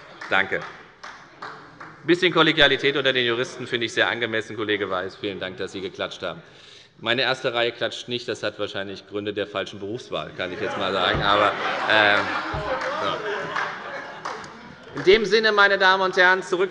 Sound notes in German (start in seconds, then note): 12.7 Allgemeine Heiterkeit